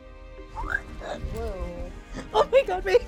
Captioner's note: squeaks